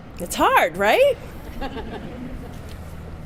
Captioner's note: audience laughs